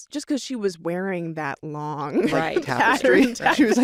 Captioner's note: laughs